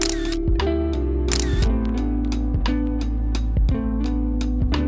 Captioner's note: camera shutter clicks; dramatic music; dramatic music